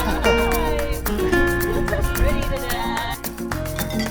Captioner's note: people laughing